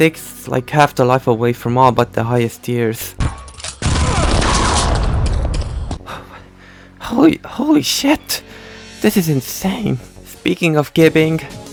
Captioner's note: blast